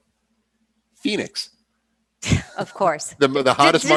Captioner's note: laughs